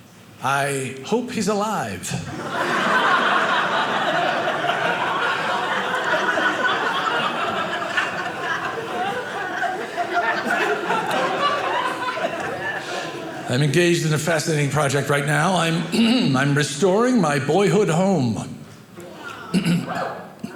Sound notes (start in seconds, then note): 2.2 audience laughing